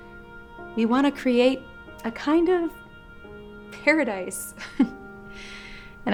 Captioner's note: chuckles